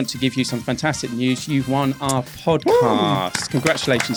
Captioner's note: whooping